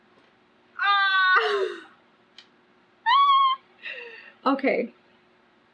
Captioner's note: groans and laughs